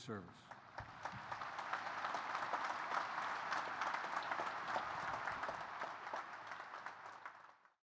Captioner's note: applause